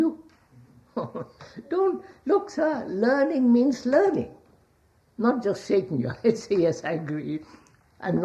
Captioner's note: laughs